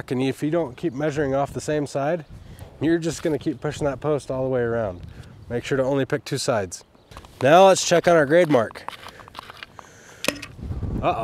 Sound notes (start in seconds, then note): 10.2 metal tool clunking; 10.2 metal tool thudding